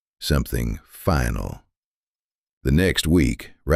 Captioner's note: lower voice